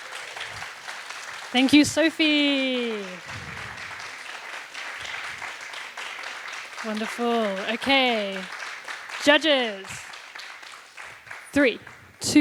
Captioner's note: applause